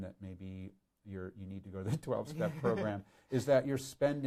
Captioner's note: laughing; laughs